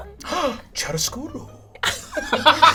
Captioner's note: gasps, speaks foreign language; all laugh